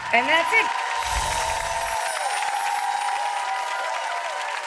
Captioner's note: applause